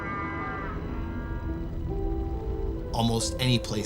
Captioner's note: fire crackling